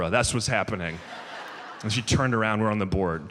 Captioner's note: audience laughs